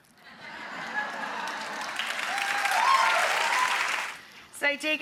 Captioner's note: audience laughs; audience cheers